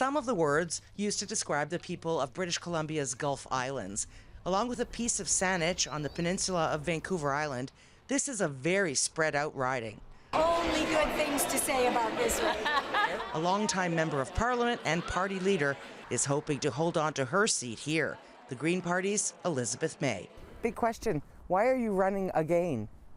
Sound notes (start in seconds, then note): 10.4 laughs